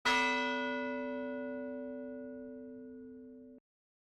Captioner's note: bell rings